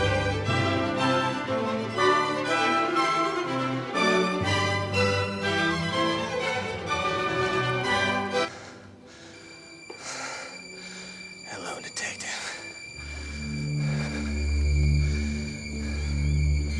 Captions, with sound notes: (lively classical music) (Dean panting) (suspenseful music) - Hello, detective. (Dean panting)